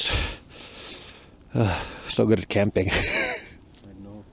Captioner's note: sighs; laughs